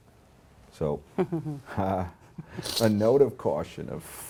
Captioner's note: laughs